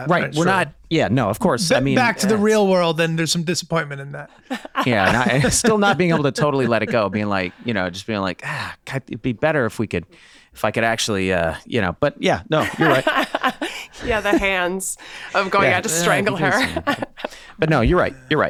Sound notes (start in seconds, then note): 12.6 laughing